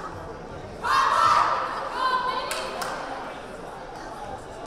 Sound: team cheering

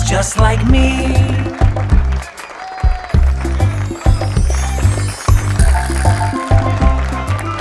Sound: audience applauds; audience cheers

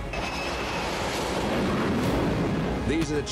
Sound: jet takeoff

